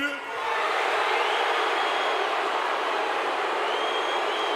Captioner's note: crowd boos